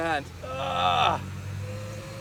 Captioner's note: grunts